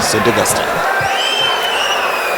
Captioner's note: wild applause and cheering for 22 seconds